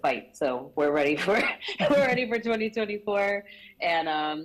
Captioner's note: chuckles